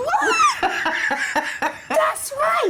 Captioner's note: Denise laughs